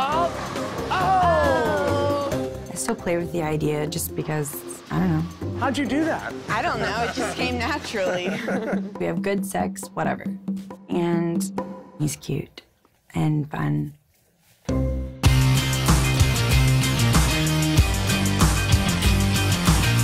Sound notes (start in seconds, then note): 6.2 laughing